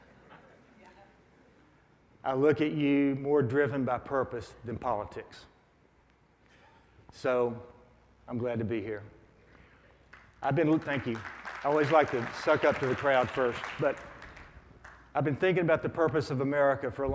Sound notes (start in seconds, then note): 0.2 audience laughs; 10.5 audience applauds